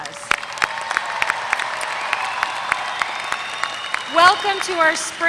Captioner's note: applause